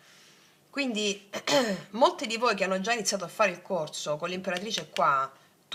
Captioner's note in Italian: schiarire la voce